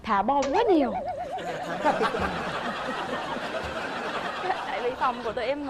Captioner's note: laughing